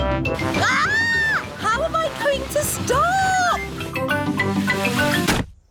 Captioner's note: shrieks